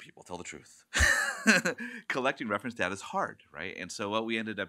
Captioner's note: laughs